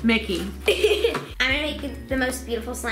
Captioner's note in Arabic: يضحك